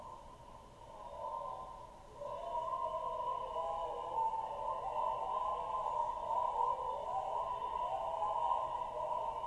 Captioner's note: sounds of a big demonstration